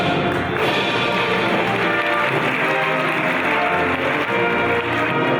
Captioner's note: audience applauding